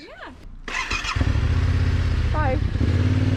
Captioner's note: motorcycle engine growling